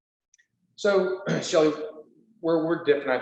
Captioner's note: clears throat